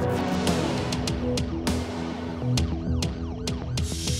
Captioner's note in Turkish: Ambulans sireni çalıyor